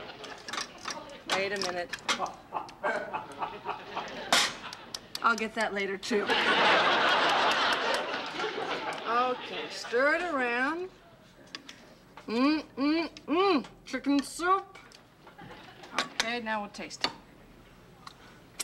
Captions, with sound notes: Wait a minute. I'll get that later too. [laughter] Okay, stir it around. Mm, mm, mm, chicken soup. Okay, now we'll taste it.